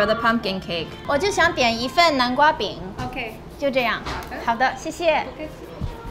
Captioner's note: speaking foreign language